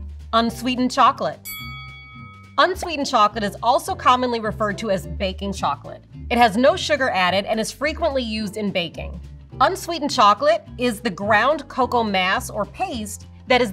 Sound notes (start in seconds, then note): 0.0 whimsical music; 1.4 bell dings